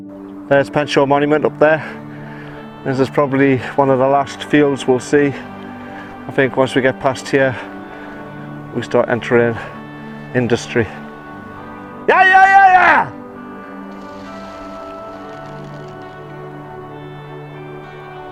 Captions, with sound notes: There's Penshaw Monument up there This is probably one of the last fields we'll see. I think once we get past here We start entering industry *yells*